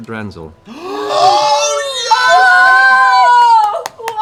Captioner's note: cheering